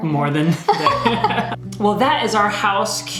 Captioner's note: laughs